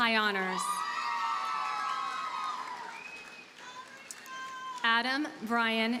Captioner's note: audience cheers and applauds